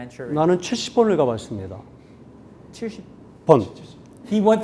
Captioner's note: speaking in Korean